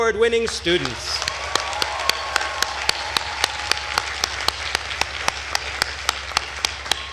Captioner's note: attendees cheering and applauding